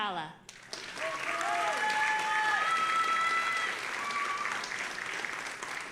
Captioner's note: audience applauding and cheering